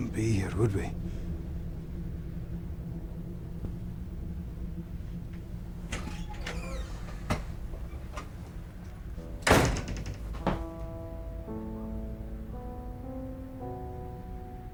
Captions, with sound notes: we wouldn't be here, would we? (Door squeaks) (Door thuds) (Somber music)